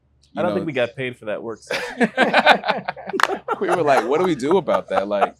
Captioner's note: interviewees laugh